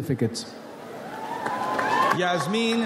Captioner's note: audience applauds